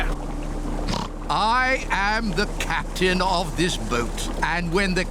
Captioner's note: oinks